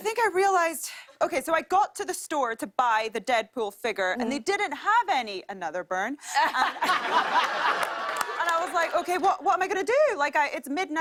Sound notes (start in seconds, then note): 6.2 laughter